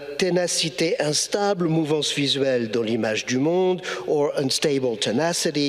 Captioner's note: speaking in foreign language